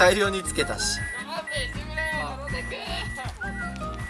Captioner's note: laughs